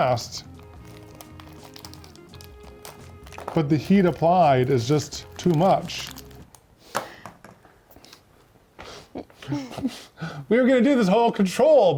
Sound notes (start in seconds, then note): 0.3 bag rustling; 6.3 plastic clinking